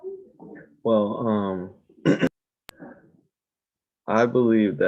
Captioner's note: clears throat